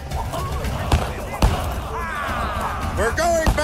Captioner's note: gunshots